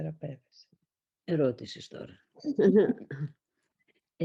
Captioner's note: laughs